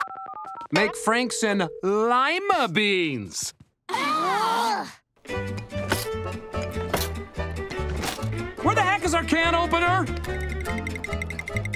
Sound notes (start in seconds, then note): 3.6 groaning